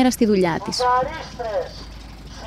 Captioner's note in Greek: ήχος από το βανάκι